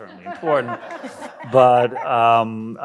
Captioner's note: audience laughs